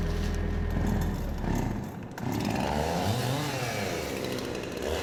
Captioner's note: chainsaw echoing